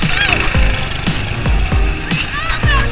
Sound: motors roaring

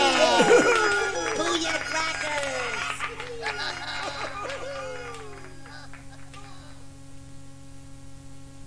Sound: laughter

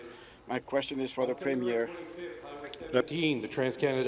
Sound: speaking in French

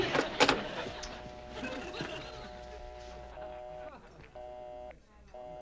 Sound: dial tone

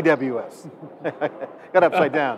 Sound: laughing

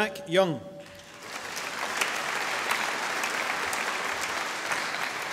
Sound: audience applauding

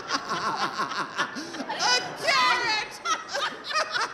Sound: both laughing

